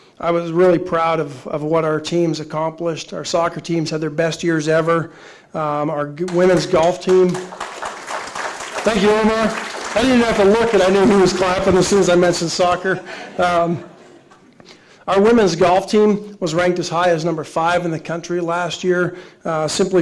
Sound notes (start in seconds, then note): 6.2 audience applauding; 12.9 laughing